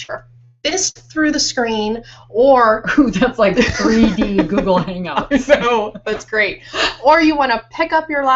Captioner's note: laughing